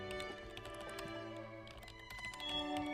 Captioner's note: keyboard typing